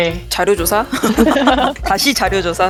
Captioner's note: laughs